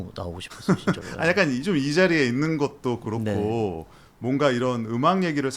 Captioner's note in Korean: 웃음